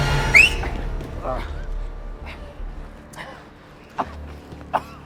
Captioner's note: tense music; whistling; groaning